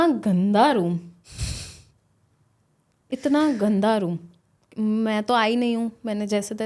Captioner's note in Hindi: नाक से की जाने वाली आवाज़